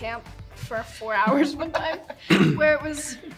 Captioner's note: Hunter and Emma chuckle